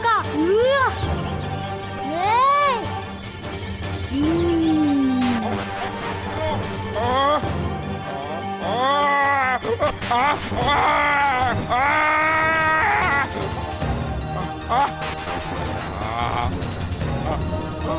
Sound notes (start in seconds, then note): 6.9 groans